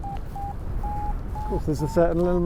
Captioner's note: Vario beeps